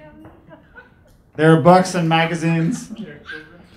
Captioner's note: laughing; laughing